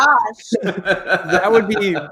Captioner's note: laughs